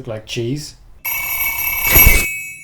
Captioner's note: frantic ringing